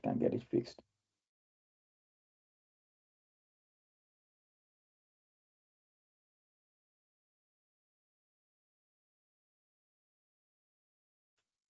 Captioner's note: silence